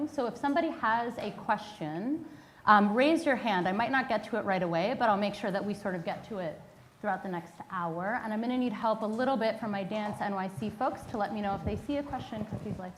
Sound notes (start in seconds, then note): none